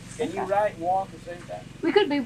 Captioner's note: laughs